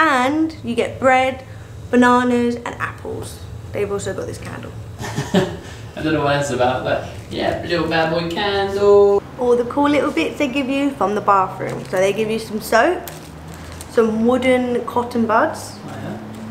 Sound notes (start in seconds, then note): 5.0 laughs